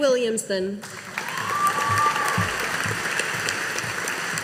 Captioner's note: audience applauding